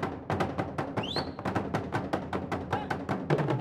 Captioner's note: whistling; drums beating